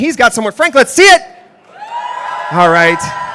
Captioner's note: applause